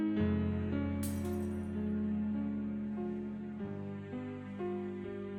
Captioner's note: glass shattering